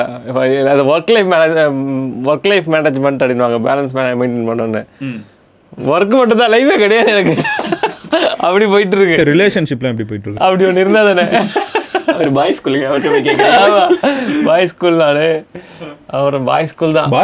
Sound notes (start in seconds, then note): 6.9 group laughs; 11.0 group laughs; 16.4 laughs